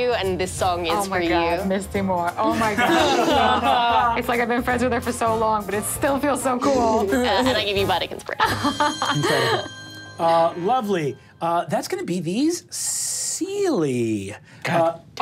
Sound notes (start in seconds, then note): 8.0 murmurs; 8.4 laughs